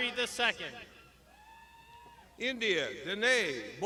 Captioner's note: crowd shouting